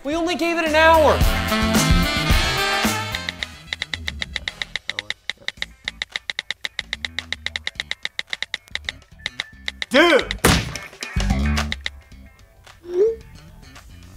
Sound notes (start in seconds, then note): 3.1 texting sounds